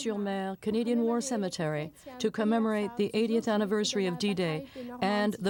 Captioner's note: speaking French